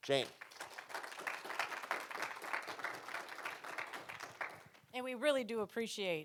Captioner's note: audience applauding